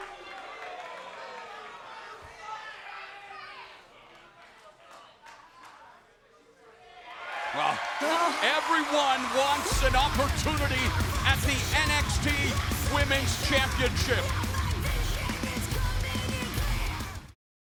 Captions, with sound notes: (crowd cheers) Well, everyone wants an opportunity at the NXT Women's Championship. (hard rock music plays)